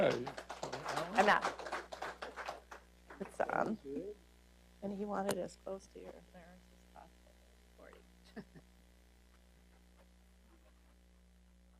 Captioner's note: applause